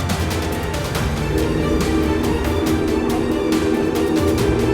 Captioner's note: engine running